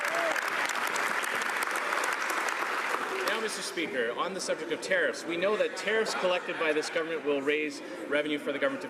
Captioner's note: some Applause